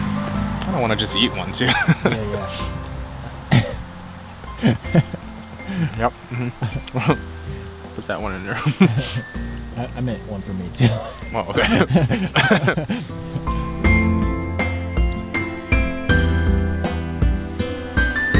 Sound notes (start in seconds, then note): 11.5 both laugh